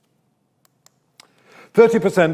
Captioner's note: mouse clicks